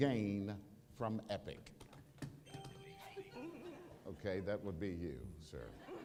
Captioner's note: ding